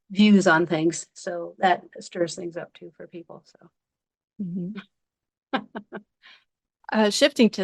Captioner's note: laughing